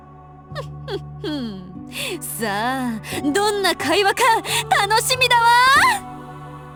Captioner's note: chuckle